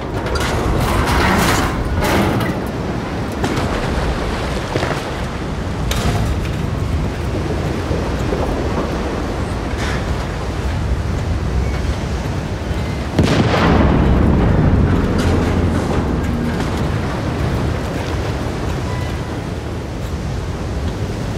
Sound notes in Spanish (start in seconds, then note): 0.0 metal crujiendo; 9.6 olas chocando